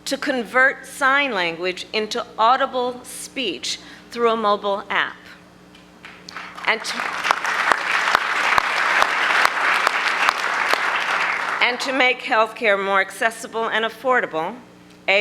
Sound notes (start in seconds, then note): 6.0 applause